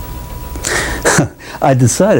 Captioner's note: laughs